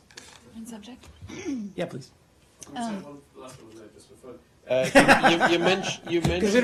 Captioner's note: laughter